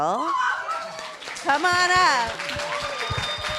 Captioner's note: applause